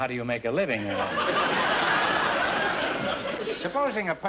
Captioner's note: audience laughter